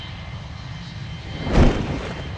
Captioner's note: lightning crashing